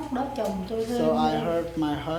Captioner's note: speaking Vietnamese